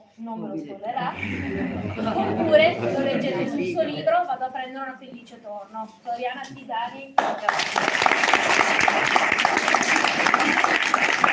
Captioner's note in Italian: Applauso